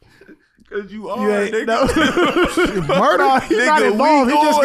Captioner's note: laughing